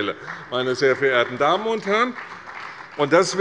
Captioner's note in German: Beifall bei der CDU - Zuruf von der SPD: Ei, ei, ei!